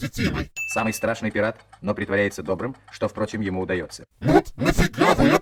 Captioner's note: voiceover